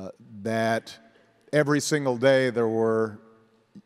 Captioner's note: none